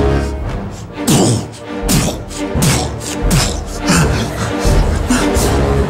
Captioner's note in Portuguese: barulho de marcha